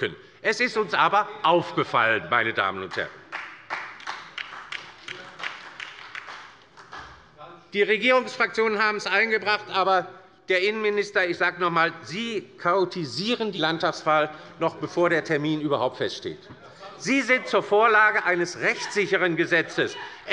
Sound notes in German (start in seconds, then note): 2.7 Beifall bei der LINKEN - Zuruf von der CDU